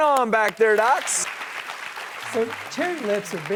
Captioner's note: audience applauding